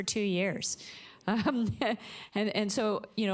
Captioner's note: chuckles